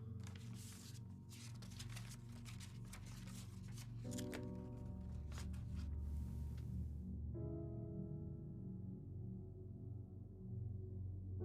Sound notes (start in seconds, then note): 1.9 paper rustles; 4.6 soft music continues